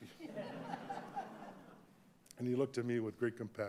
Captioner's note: audience laughing